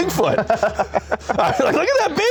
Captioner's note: laughs